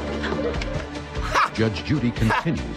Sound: laughs

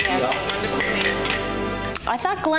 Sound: mugs clink

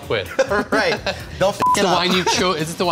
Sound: laughs

